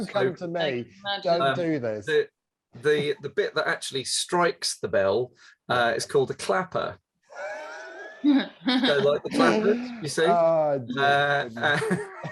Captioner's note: laughs